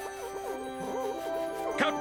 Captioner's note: bike squeaking; triumphant music